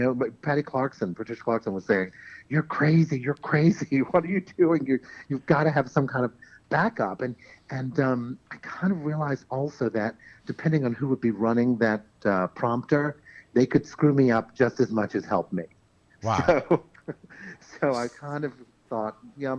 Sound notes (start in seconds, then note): 16.2 laughs